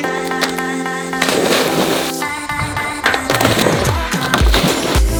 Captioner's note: man splashes into water